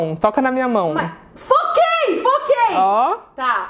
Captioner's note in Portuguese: grita